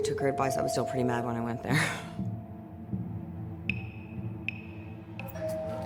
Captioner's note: chuckles; doorbell rings